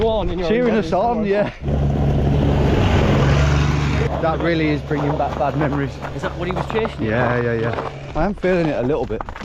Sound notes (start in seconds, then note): 1.6 vehicle revving